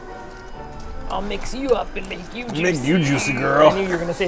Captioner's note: rough voice